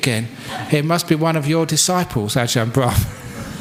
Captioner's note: laughter